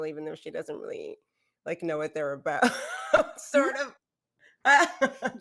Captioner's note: laughs